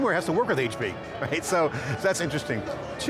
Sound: chuckling

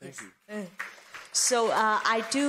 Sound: applause

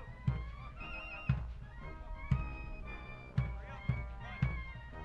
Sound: reporters shouting

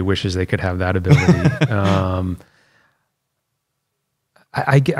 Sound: laughter

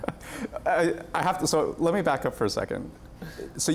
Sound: laughter

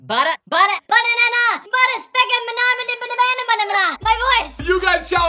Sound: mumbles in high pitch voice

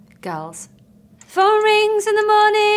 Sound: clock ticking

